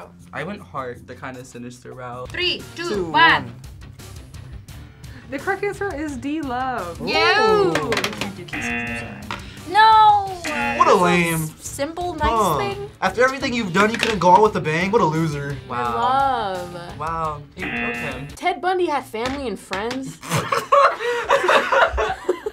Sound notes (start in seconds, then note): 17.6 buzzer; 20.2 laughs